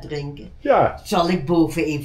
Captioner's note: voiceover